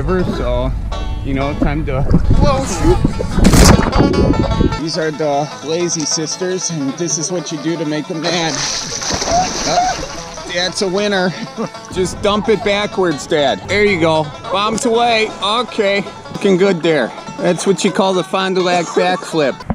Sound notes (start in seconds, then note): 2.2 country music; 8.2 water splashing